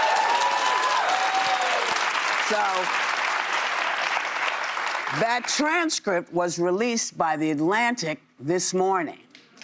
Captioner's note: cheers and applause